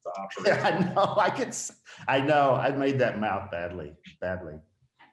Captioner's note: laughing